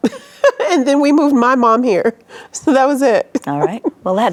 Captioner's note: laughs; chuckles